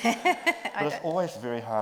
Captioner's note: group laughs